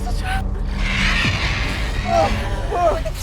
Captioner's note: animal growling